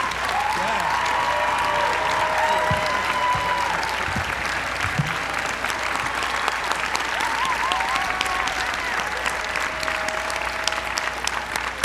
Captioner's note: applause